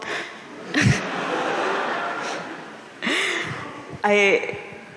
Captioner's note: audience laughing